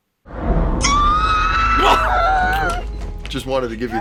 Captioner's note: screams